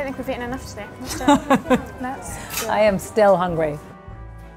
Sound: laughs

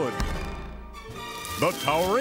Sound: metal reverberating

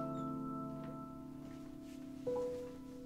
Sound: door creak

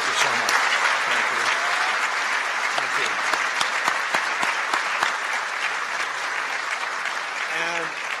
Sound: applause

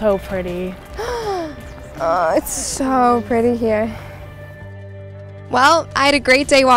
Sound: gasps

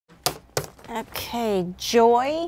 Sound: papers rattle

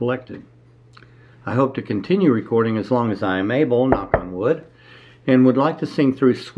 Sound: knock on wood

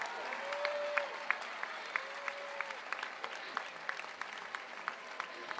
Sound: applause

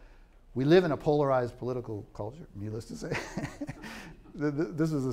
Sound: laughs

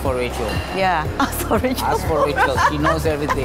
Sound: laugh

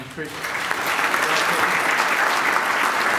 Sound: applause

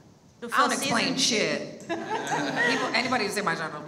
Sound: laughs

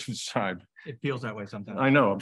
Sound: chuckles

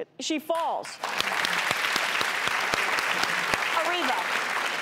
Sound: crowd clapping

